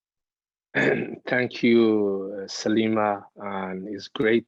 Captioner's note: clearing throat